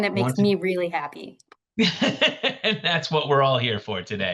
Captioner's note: laughter